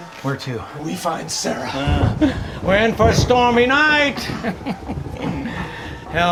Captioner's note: chuckles